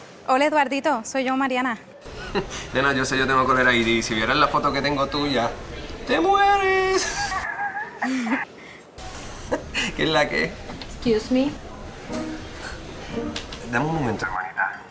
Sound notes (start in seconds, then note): 6.9 Eduardito laughs